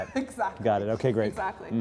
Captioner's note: laugh